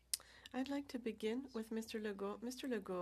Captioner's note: speaking french